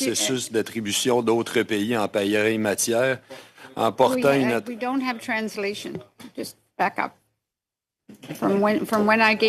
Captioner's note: speaking French